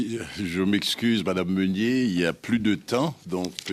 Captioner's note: speaking French